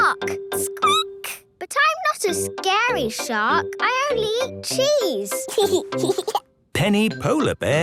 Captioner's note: squeaking; giggling